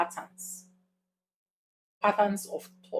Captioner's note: paause